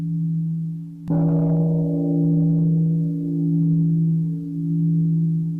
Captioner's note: gong